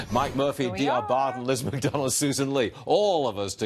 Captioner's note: laughter